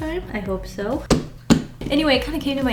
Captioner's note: taps on sketchbook